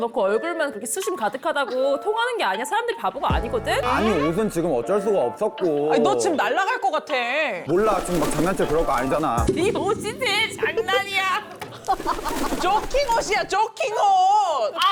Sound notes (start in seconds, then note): 7.8 flapping sounds; 11.5 flapping sounds